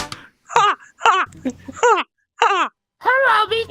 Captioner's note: laughs in Mouse